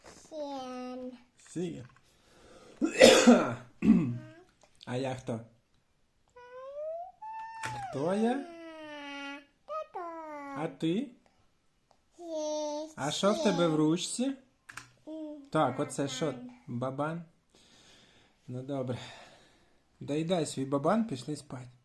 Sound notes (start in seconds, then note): 2.8 coughing again